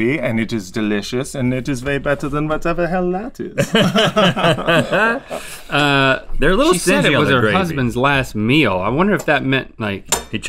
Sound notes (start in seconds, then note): 3.6 laughter